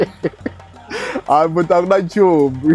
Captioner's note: speaking African language